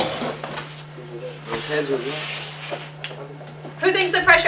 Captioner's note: chatter